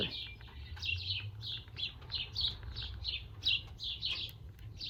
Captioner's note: birds chirping